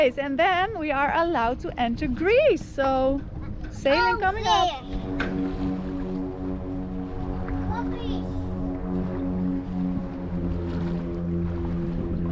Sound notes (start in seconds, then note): 5.3 airplane engine roars